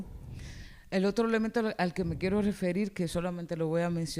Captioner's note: speaking spanish